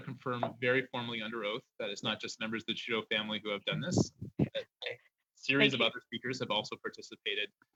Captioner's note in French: voix de l'interprète